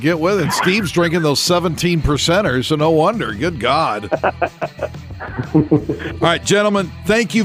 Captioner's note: laugh